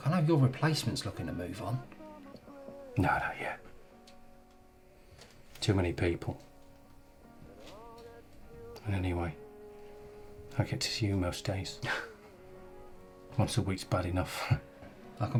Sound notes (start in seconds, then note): 12.0 Sean chuckles